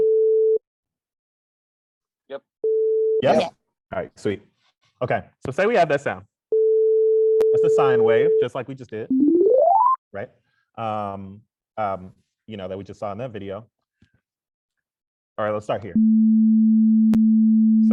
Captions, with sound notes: Yep. Yes. Alright, sweet. Okay, so say we have that sound. (tone plays) That's a sine wave, just like we just did (ascending sound plays) right? You know, like we just saw in that video. Alright, let's start here. (lower tone plays)